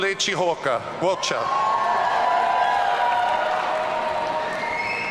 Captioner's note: audience cheering